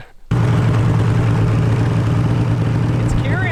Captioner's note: snowmobile engine